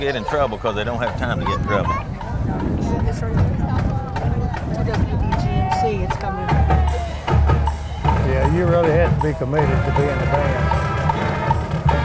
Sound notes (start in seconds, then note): 3.7 band playing continues; 3.7 wind blows